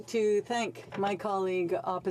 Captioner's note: speaking in french